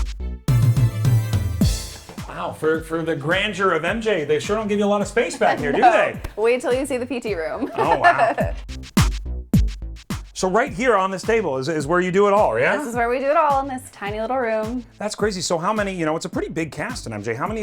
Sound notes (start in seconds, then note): 0.2 upbeat music; 7.2 laughs; 9.2 upbeat music